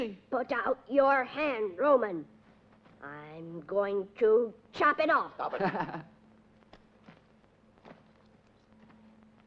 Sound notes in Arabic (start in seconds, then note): 5.5 يضحك